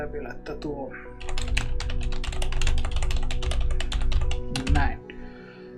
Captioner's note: intense typing describing Sámi homeland relation